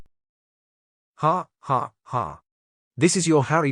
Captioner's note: ai voice